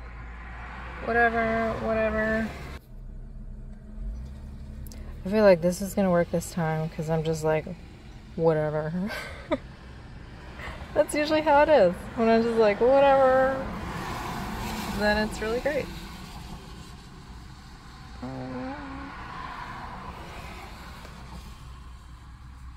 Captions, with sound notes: That's the permanent rose. Whatever! Whatever! I feel like this is going to work this time because I'm just like, "whatever." [laughs] That's usually how it is. When I'm just like, "whatever!" then it's really great!